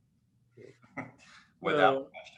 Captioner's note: chuckles